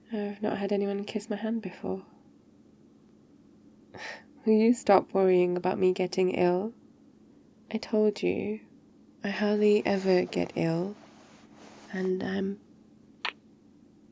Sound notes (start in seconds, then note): 9.4 shuffling; 13.1 kiss